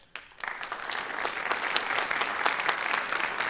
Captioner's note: applause